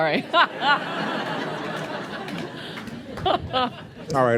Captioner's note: laughter